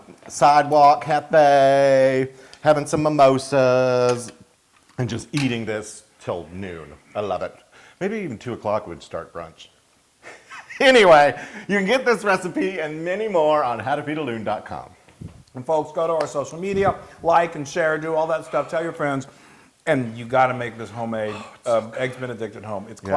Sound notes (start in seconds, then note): 10.2 laugh